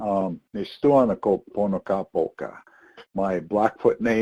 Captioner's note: speaks in foreign language